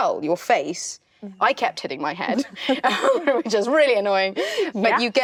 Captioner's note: giggling